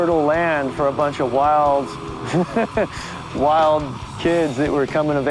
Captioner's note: laughs